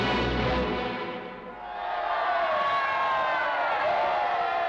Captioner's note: cheers and applause